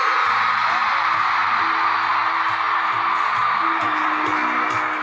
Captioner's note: loud crowd cheering